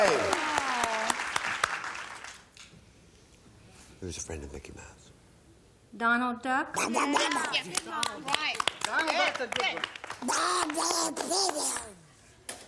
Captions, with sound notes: -Whoo! -Pretty Elaine. Who's a friend of Mickey Mouse? -Donald Duck? -(imitates duck quacking) -Right. -Donald Duck's a good one.